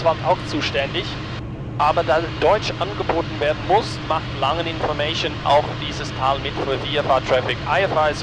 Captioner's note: radio